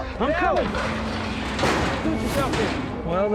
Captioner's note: gate clanks shut